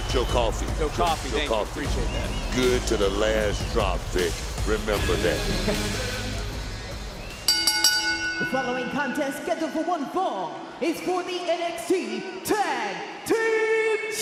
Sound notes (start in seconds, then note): 5.2 chuckles; 7.4 bell rings